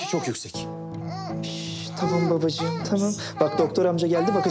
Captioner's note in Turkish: Bebek ağlıyor